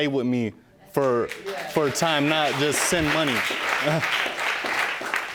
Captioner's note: audience clapping